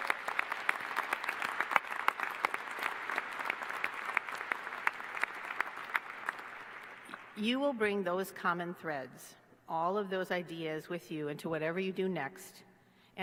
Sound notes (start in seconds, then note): 0.0 applause